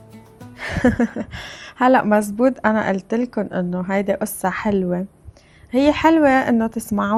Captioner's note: laughter